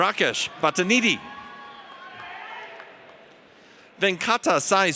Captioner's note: audience cheers